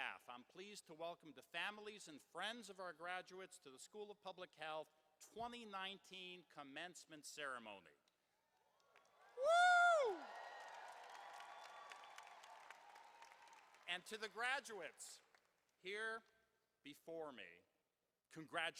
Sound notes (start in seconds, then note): 9.0 cheering and applause